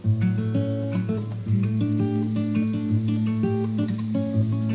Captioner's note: humming